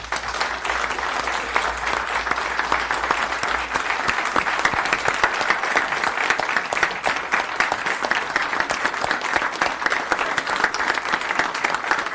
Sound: applause

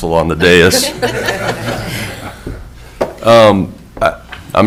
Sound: people chuckling

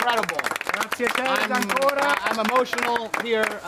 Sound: crowd applauding

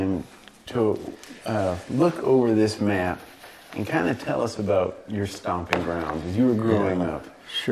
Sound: none

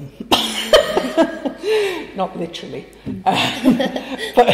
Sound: laughing

